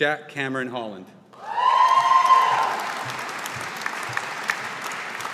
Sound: audience applauding

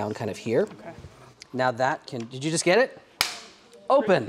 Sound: clap

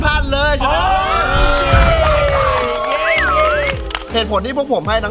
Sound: cheering; applauding

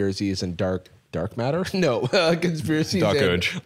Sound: laughs

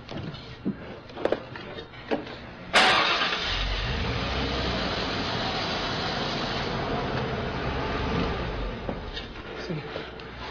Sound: car Starts

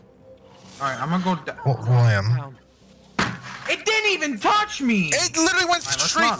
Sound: hits desk

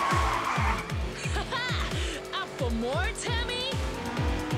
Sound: chuckle

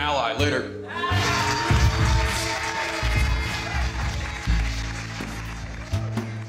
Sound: applause

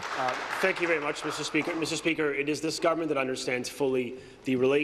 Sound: applause

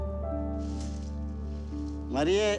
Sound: speaking spanish

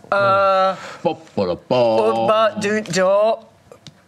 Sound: grunting

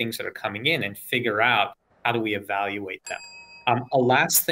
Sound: bell dings

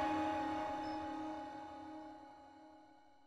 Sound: crickets chirping

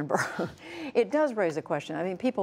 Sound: laughter

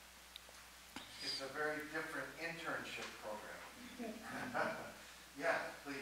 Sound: chuckles

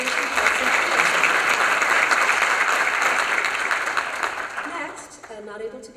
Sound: applause

